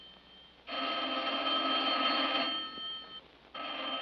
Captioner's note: ringing continues